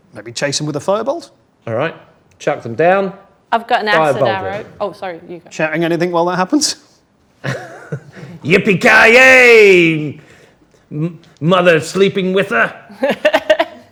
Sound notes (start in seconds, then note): 4.1 overlapping chattering